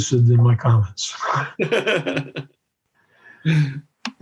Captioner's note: laughs